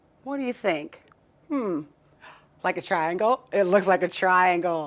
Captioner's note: gasps